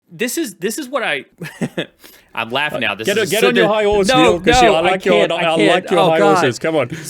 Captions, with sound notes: - This is what I (laughs) I'm laughing now. This is- - Get on your- - No, no, I can't, I can't. Oh, God!